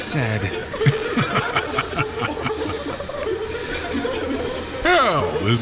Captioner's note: evil Laughter